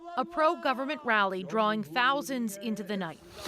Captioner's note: speaking alternate language